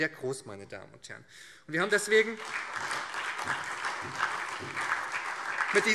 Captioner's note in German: Beifall